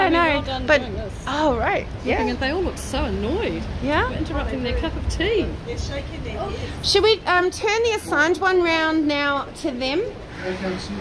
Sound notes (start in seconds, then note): none